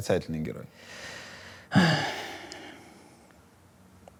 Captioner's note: sighs